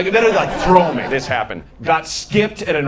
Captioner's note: audience laughing